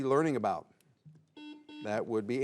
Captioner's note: buzzer beeps